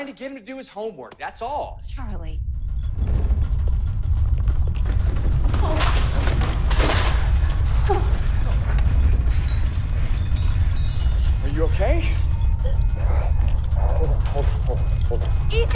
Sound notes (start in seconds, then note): 5.4 whimpers